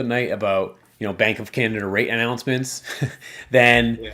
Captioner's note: chuckles